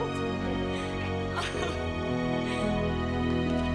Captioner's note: laughs